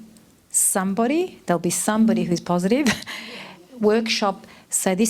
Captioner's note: laughs